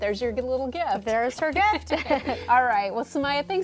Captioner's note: both laugh